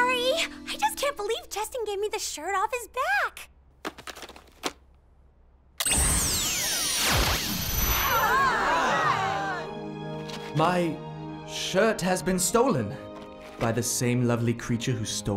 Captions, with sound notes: Cheston gave me the shirt off his back. [THE AUDIENCE GASPS] My shirt has been stolen... by the same lovely creature who stole my heart.